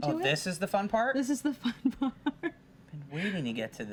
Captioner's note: lightly laughs